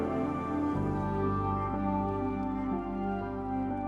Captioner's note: phone vibrating